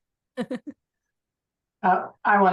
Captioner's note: chuckles